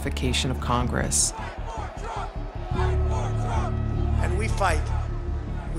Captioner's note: chanting